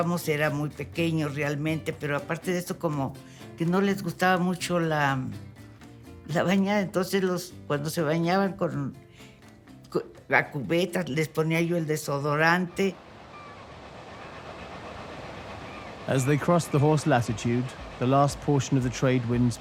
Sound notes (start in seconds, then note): 12.5 seagulls cawing; 14.2 in English